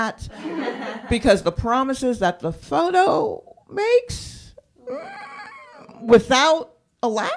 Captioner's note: laughter; groans